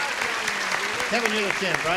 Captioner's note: applause